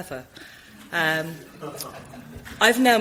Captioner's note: audience chuckles